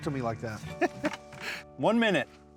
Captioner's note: chuckles